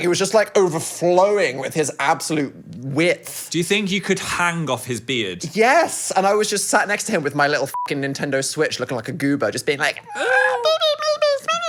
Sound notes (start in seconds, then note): 7.7 beep; 10.1 vocalizing baby talk